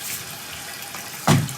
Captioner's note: water trickling continues